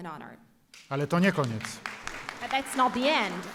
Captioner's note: applause